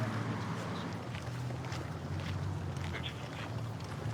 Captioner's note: footsteps